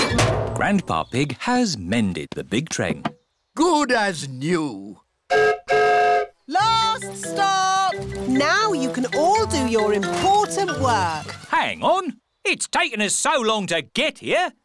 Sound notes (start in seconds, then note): 5.3 whistle blows